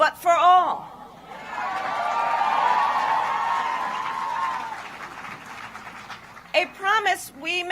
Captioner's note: applause